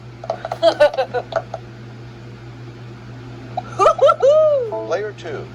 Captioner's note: Maria cheers